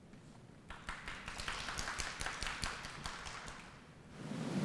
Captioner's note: applause